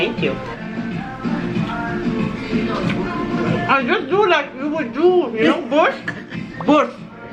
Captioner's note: reggaeton music; laughs